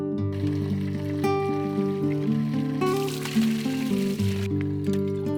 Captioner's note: water trickling